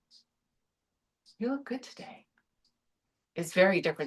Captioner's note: said encouragingly